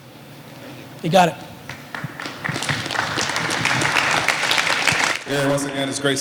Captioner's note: applause